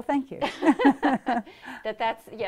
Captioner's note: laughter